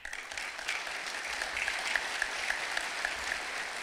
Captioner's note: clapping